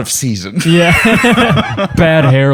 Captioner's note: laughter